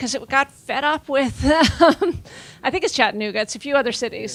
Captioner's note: laughing